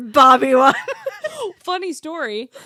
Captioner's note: both laughing